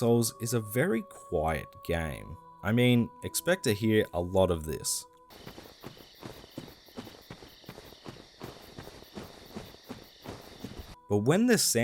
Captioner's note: footsteps